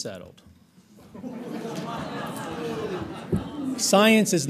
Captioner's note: audience laughs